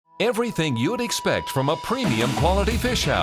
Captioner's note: voiceover